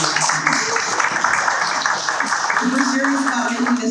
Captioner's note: people clapping